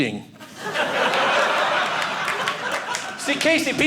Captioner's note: audience laughing